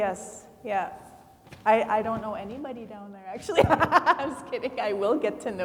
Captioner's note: laughs